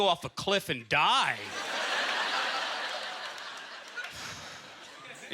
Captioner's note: audience laughter